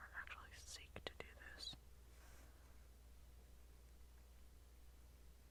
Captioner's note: none